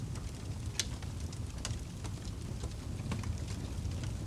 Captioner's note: ambient Campfire Crackling